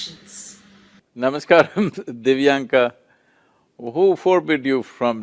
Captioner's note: laughs